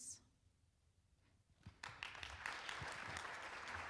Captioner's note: applauding